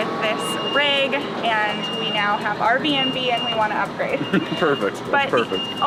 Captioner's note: laughs